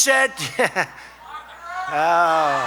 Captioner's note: laughs